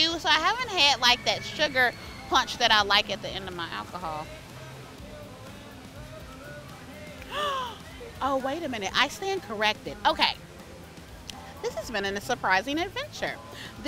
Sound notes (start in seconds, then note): 7.2 gasps